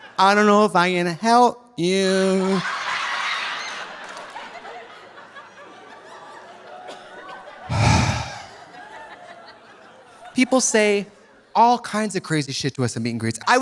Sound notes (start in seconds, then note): 3.9 audience laughing; 7.7 Trixie sighs